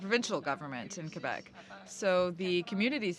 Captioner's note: speaking french